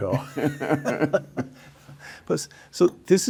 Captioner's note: both laughing